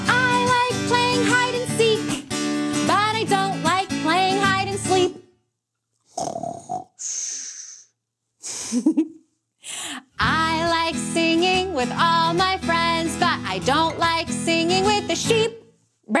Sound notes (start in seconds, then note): 6.1 snores; 8.4 chuckles